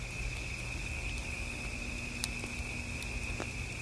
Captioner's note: crickets chirping